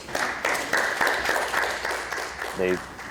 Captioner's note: courtroom applauds